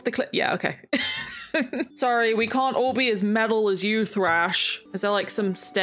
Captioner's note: laughs